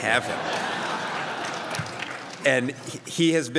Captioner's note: crowd laughs